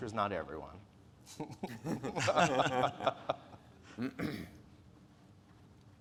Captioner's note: speakers laughing